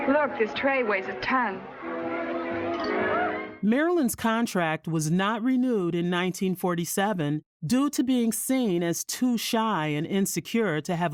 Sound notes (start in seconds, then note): 2.2 people chatter indistinctly; 3.6 upbeat music